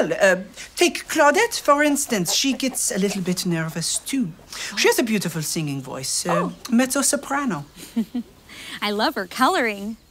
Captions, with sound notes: I have to warm up my voice. (laughter) Well, take Claudette. for instance. She gets a little bit nervous too. She has a beautiful singing voice...